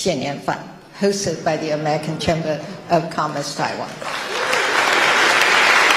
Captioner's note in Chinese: 台下熱烈鼓掌